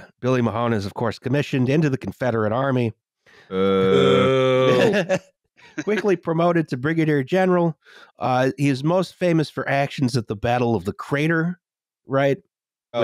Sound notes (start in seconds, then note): 4.7 laughter